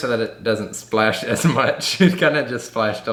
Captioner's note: chuckles